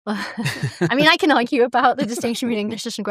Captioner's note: laughter